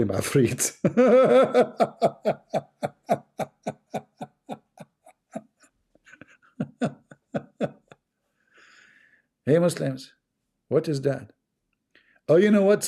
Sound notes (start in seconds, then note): 6.1 Ketawa